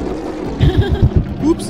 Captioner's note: laughter